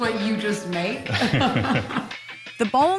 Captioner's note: both chuckling